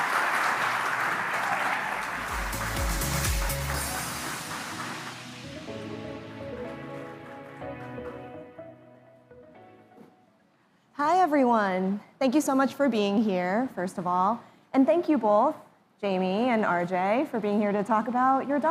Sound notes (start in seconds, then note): 6.5 applause